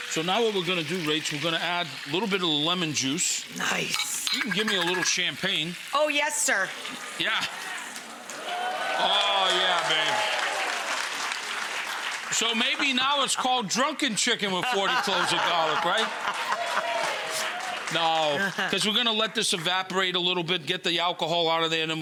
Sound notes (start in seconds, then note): 3.9 dishes clattering; 6.5 audience cheers; 7.4 audience cheers and claps; 10.9 audience cheers; 16.6 all laughing; 16.6 audience cheers and applauds